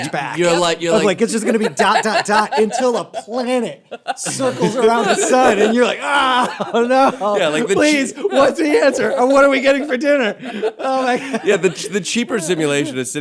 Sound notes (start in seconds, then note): 5.6 groans; 10.4 laughter